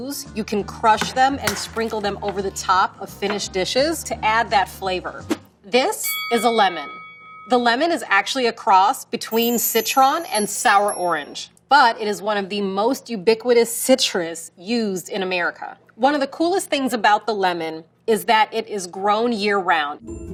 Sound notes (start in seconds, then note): 6.0 bell dings